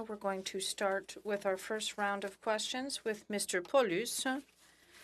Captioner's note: speaking French